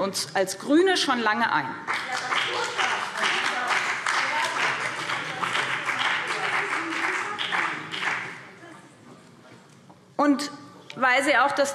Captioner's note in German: Beifall BÜNDNIS 90/DIE GRÜNEN – Zurufe DIE LINKE